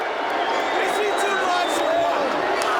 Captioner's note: crowd cheering